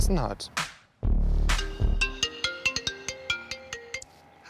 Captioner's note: phone rings